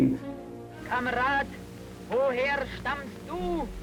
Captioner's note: speaking German